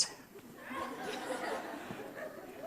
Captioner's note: audience laughs